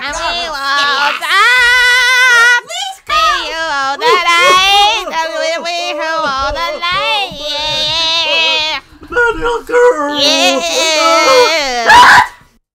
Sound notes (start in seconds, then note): 0.0 continues to sing; 3.8 sobbing as Miley continues to screech